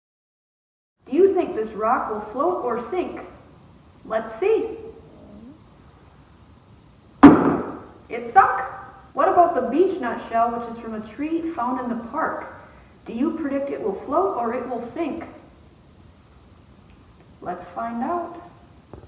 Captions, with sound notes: Do you think this rock will float or sink? Let's see! [LOUD PLUNK] It sunk! What about the beach nut shell which is from a tree found in the park? Do you predict it will float or it will sink? Let's find out.